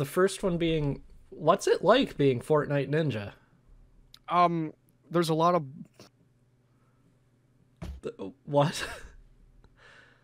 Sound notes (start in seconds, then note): 7.8 something thuds